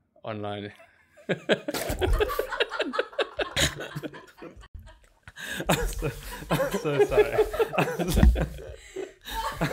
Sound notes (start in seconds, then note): 1.3 laughing